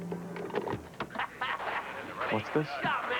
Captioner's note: videotape plays